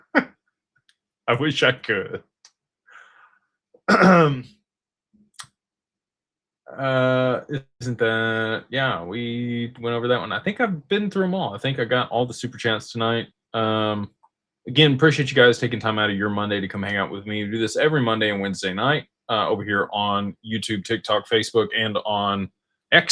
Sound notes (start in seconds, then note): 0.0 laughter; 3.8 clears throat